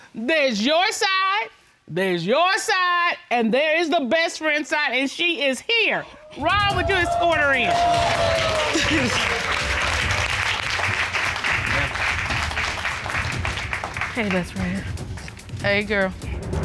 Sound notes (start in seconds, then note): 8.1 cheers and applause; 8.6 chuckles